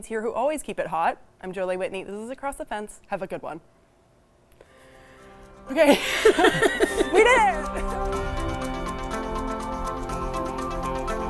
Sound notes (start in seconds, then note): 5.7 laughing; 8.5 upbeat music